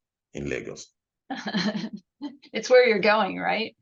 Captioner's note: laughing